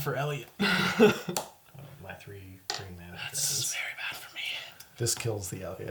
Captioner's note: whispers